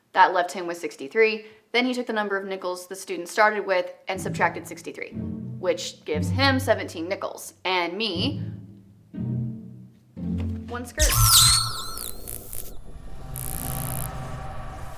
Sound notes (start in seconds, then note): 11.0 device beeps